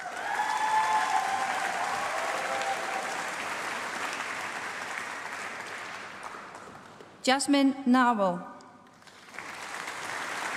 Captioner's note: applause